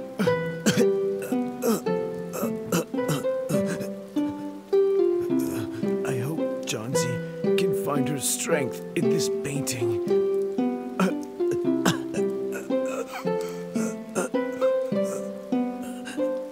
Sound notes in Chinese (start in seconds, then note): 1.2 咳，咳